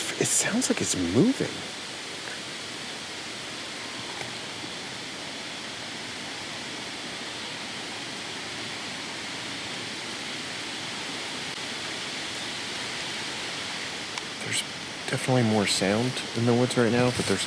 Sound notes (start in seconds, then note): 3.7 static buzzing